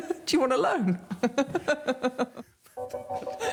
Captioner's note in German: lacht